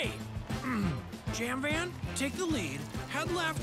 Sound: clears throat

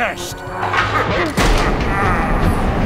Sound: clank

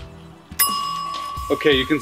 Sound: alarm rings

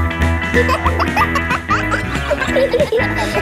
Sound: kids laughing; pop music playing

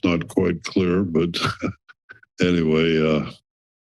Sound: chuckles

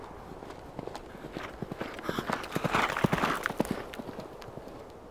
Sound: galloping hoofbeats

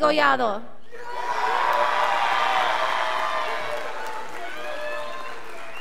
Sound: scholars applauding

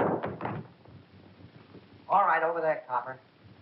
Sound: gunshot

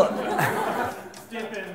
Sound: audience laughter

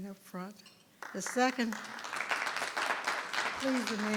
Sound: audience clapping

